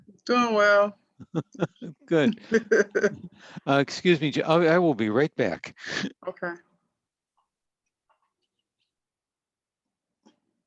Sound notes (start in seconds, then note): 1.2 chuckles